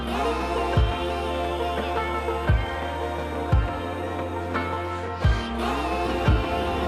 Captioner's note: laughs